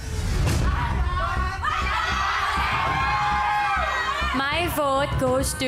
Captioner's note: audience cheering